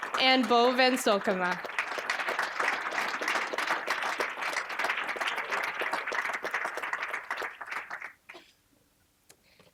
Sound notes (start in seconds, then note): 2.2 applause